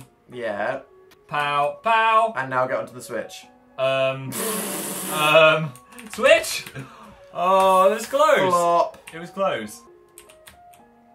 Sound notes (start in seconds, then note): 4.5 mocking